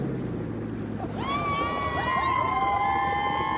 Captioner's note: cheers; laughs